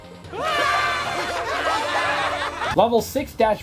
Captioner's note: laughter